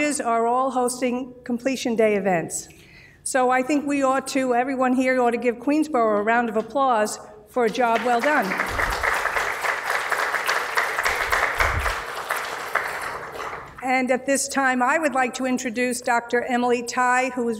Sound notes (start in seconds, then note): 7.6 applause